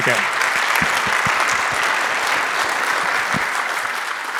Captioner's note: audience applauding